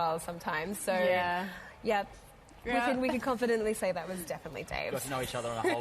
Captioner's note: laughter